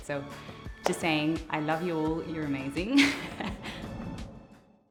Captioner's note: laughter